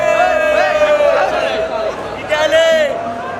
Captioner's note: people cheer